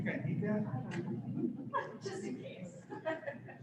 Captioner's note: laughter